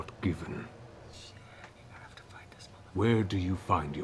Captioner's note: whispers